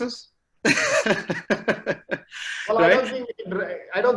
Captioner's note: laughs loudly